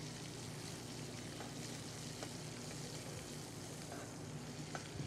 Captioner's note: skillet sizzling continues